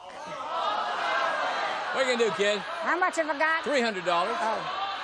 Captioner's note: audience clamoring